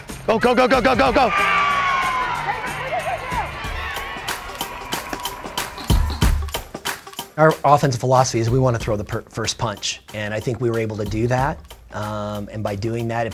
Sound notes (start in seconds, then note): 2.2 crowd cheering; 5.0 dramatic music